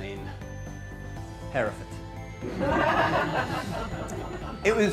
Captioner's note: laughter erupted from the audience